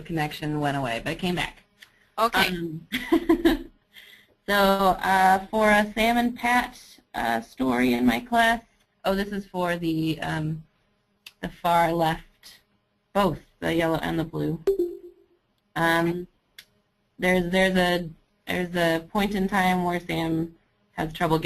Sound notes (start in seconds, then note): 3.7 laughing